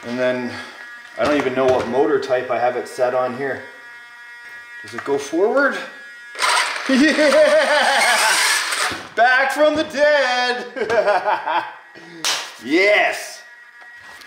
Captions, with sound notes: And then, I don't even know what motor type I have it set on here. Does it go forward? (laughing) Back from the dead. (laughing) Yes.